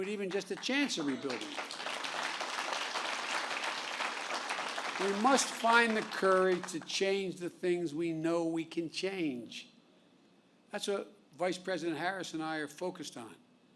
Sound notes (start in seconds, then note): 1.9 applause